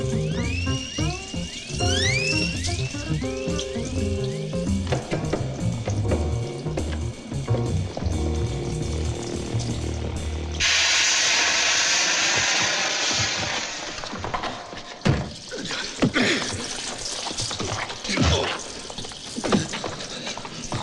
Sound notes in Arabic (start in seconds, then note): 10.6 يصدر البخار صوت هسهسة; 18.3 ضربات القبضة